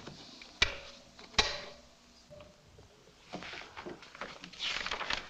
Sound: intercom clicks off; paper rustling

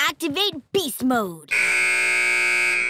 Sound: buzzer

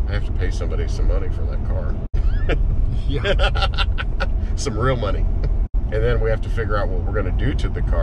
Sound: laughing

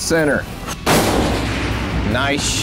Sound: gunshot

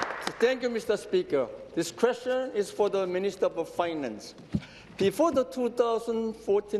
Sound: applause

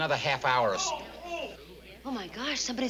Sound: moaning

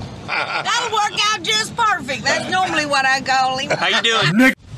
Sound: laughing

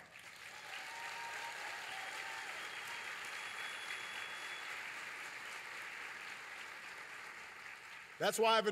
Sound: applause

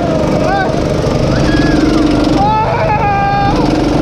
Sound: motors roaring; shouting

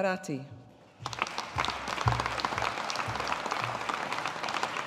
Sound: audience applauding

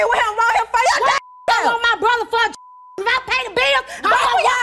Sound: beep

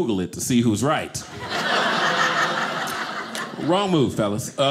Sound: audience laughing

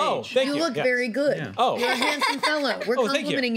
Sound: laughter

